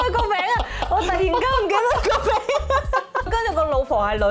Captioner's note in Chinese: 陶大宇式爆笑